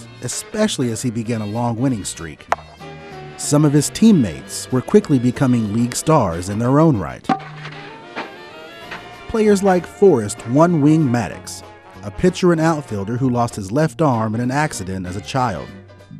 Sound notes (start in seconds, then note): 2.5 thud; 7.2 footsteps; 7.3 thud